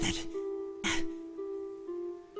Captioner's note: breath